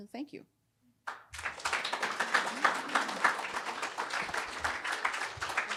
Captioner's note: attendees applauding